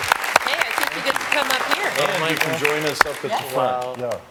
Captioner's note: applause